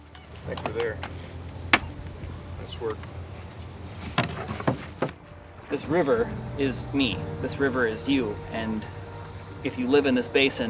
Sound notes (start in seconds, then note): 1.8 paddles clacking